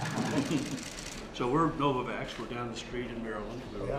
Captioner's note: laughter